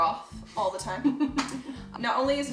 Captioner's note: chuckles